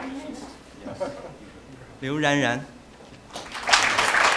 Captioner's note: applause